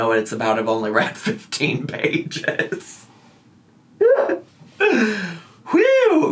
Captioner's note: laughing